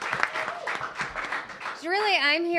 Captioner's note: applause